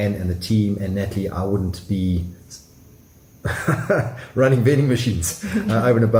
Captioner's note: chuckling